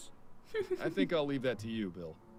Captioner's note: chuckles